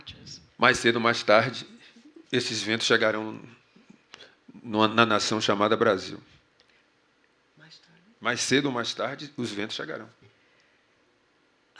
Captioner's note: speaking portuguese